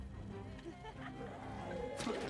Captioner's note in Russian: женский смех